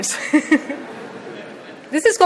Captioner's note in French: rires